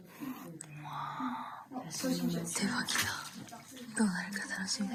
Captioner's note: non-english speech